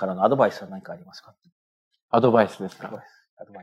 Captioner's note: speaking japanese